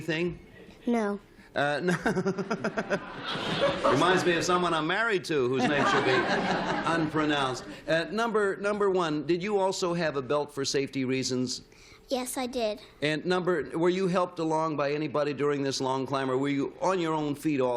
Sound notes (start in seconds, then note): 1.8 chuckles